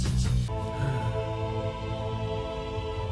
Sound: rocket sighs

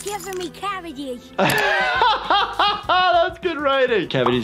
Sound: laughs

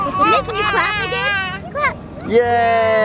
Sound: laughing

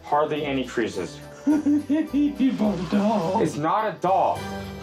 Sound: laughs

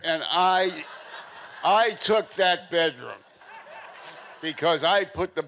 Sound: audience laughing

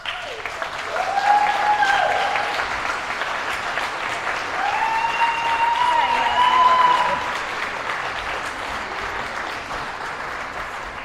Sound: applause and Cheering

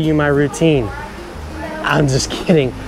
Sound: gymnasts chattering

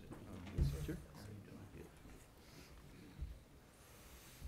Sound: men chatting

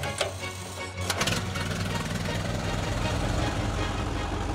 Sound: engine roars

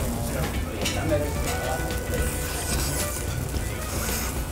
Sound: slurping noise

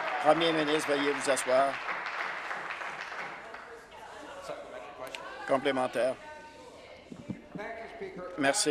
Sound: applause

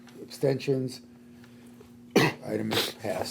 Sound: coughs

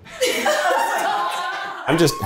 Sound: all laughing

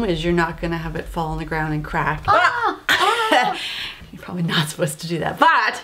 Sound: laugh

